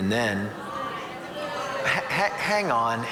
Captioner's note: audience murmuring